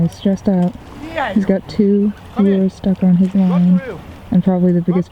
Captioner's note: man yelling